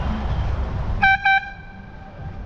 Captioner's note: honk